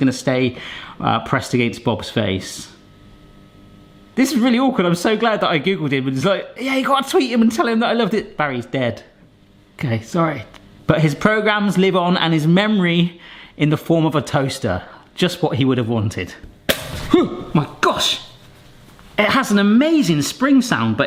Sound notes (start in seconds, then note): 17.1 groaning